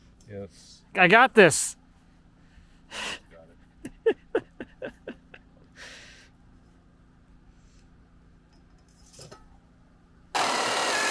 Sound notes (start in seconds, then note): 3.4 laughs